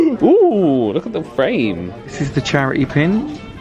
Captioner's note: gasps